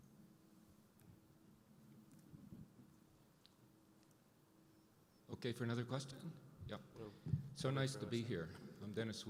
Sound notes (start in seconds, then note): 5.5 voiceover